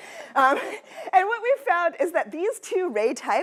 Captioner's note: laughter